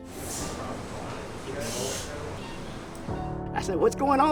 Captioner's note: operating room noise